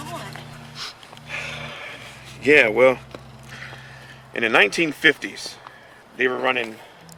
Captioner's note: sighs